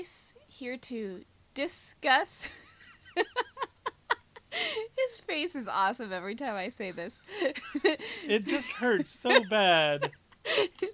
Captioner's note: laughing